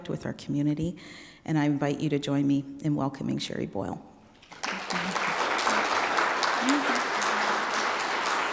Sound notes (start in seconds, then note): 4.4 audience applauding